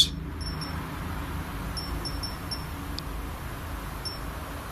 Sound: device beeps

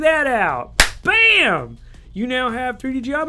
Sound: hands clapping

